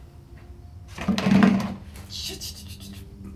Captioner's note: bucket sliding